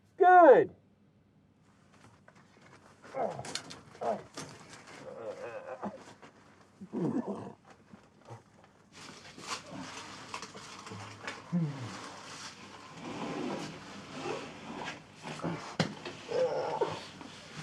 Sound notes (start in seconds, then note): 3.3 Isaac groaning; 11.5 Isaac sighing